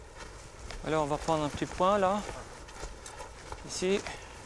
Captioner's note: French spoken audio